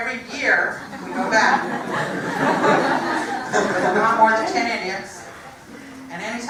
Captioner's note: laugh